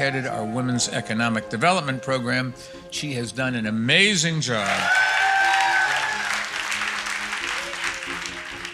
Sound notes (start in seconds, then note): 4.6 audience applauds